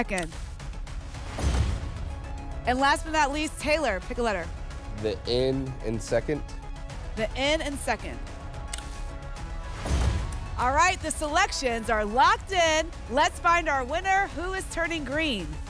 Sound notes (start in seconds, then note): 1.1 whoosh; 1.2 thump; 9.6 thump; 9.6 whoosh